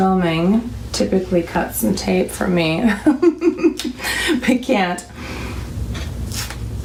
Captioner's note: laughs